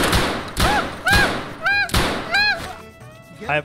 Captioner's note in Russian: звуки чайки